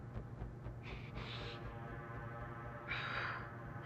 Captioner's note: heavy breathing